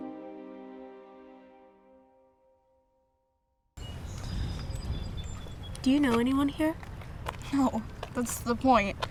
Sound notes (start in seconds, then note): 3.8 birds chirping